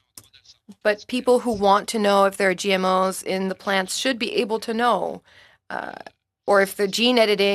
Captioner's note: speaking French